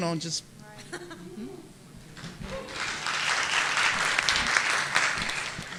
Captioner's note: audience applauding